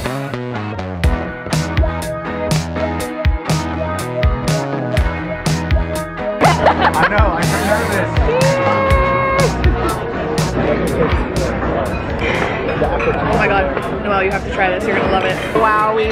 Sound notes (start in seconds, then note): 6.4 laughing